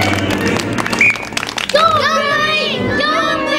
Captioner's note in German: Pfeife trillert